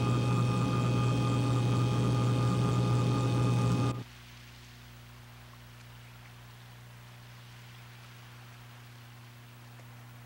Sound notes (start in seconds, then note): 4.0 water splashing gently